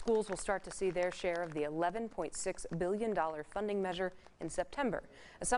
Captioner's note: applause